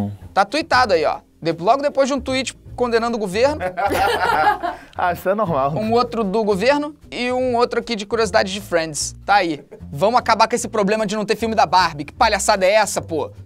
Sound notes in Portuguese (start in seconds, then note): 3.6 risadas